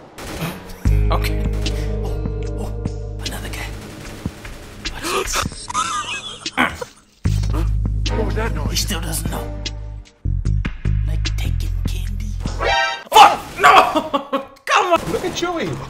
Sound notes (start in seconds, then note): 5.0 laughing; 13.6 laughs